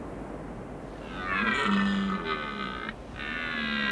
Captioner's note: stag bellows